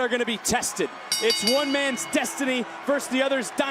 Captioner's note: bell rings